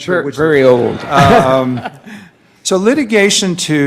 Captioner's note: laughing